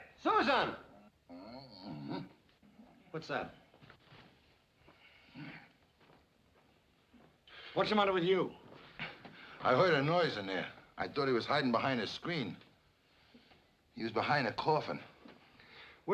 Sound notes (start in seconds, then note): 0.8 groan